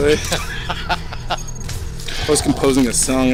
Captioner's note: laughs